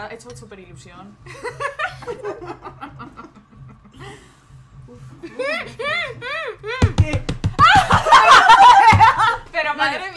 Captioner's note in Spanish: risas